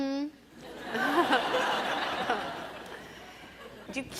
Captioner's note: audience laughs